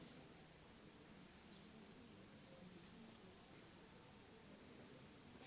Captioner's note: audience chattering continues